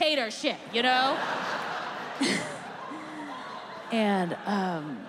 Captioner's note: audience laughs